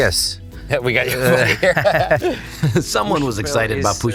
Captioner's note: laughing